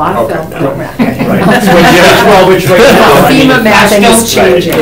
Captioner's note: attendees laugh